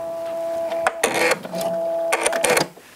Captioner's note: whirring